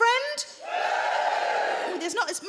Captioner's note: audience woos